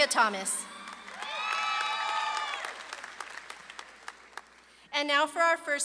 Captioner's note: audience claps and cheers